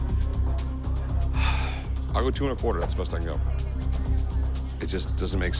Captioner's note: sighs